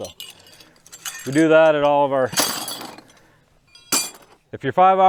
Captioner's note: metals dinging